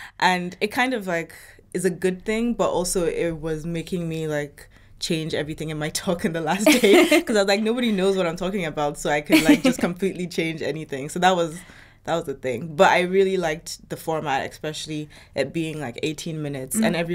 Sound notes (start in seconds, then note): 6.6 laughs